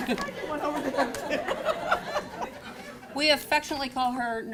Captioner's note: laughter